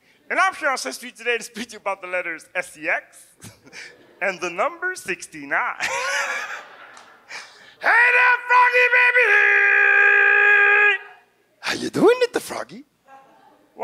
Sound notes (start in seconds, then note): 5.7 audience laughs; 5.8 laughs